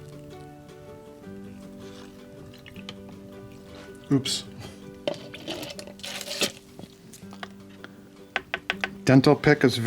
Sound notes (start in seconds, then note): 1.0 upbeat music; 5.3 squirting; 8.3 tapping